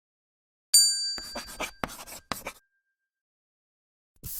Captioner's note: bell dings